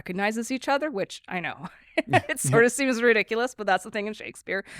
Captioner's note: laughs